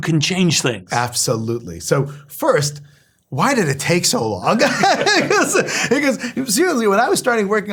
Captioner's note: laugh